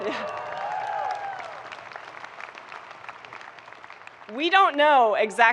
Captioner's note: people clapping